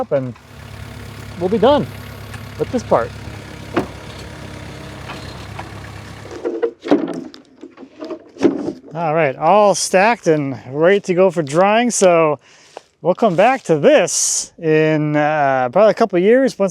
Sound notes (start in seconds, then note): 3.9 engine humming; 3.9 wood clonking